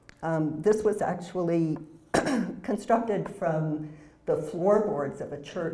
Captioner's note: cough